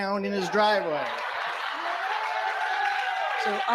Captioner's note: laughter & applause